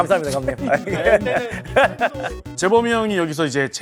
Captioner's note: hahaha